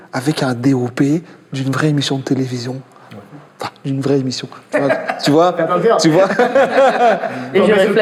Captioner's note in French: rires